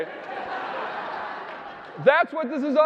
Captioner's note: audience laughing